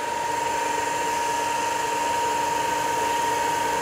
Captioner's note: machine noise